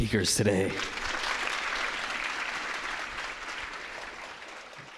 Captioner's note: applause